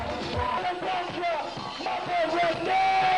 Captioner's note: chanting